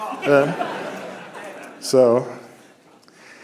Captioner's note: laughter